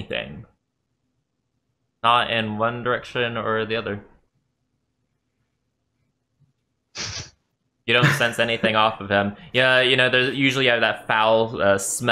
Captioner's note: sniff